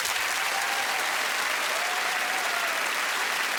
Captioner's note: cheers and applause